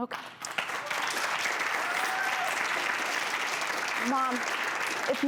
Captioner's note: crowd applauds